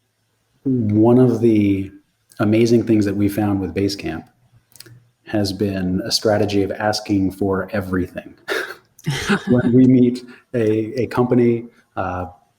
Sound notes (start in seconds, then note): 9.0 laughing